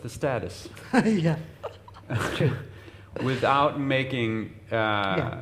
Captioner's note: laughs